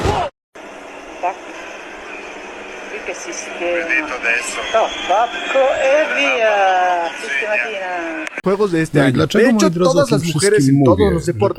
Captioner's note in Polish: Aplauz